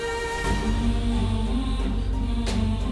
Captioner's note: poignant vocalisation